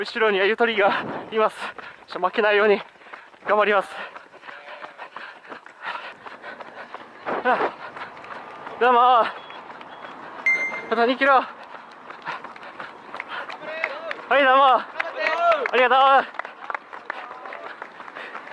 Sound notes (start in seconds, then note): 14.9 cheering